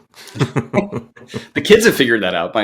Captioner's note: both chuckling